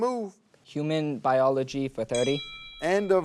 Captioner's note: timer dings